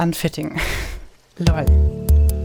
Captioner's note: laughs; deep bass music